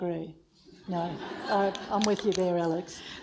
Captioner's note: audience laughs